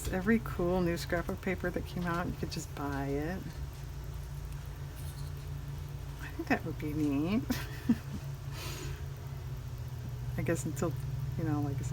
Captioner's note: laughs